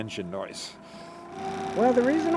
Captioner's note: boat engine running